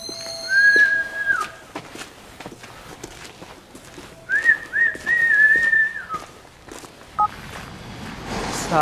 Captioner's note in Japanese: 口笛